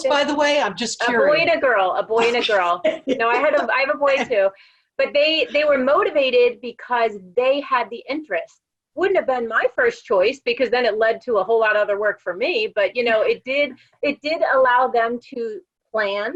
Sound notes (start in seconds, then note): 2.2 laugh